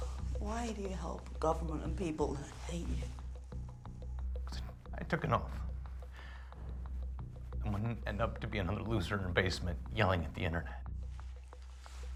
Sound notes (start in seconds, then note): none